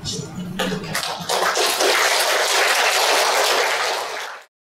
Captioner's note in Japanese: 拍手